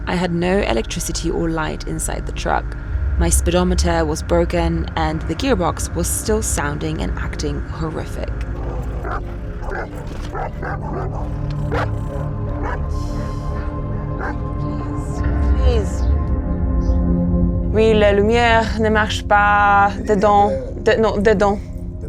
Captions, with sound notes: I had no electricity or light inside the truck. My speedometer was broken, and the gearbox was still sounding and acting horrific. (dogs barking) (both speaking in foreign language)